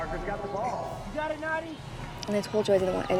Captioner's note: French